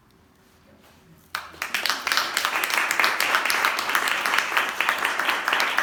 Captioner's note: applause